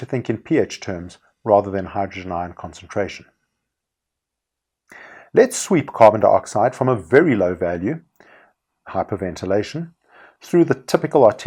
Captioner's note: hyperventilation